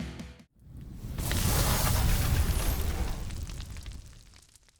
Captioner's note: crackling